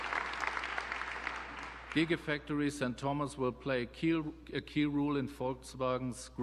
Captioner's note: applause